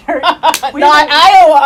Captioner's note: clapping